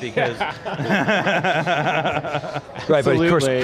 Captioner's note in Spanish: riendo